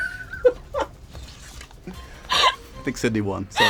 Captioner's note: laughter